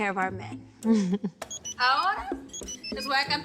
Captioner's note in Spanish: Alerta de mensaje de texto